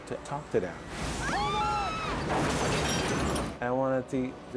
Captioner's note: screams